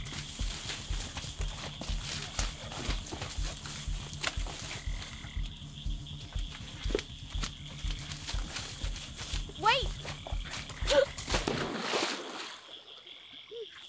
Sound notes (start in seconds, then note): 11.2 splash